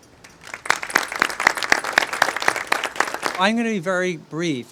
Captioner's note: audience applauding